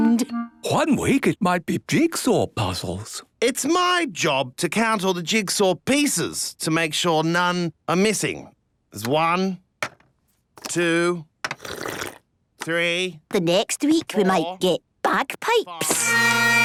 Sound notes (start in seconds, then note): 11.5 slurping; 15.8 dissonant music